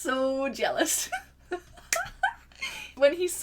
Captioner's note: laughter